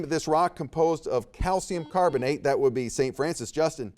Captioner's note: buzzer beeps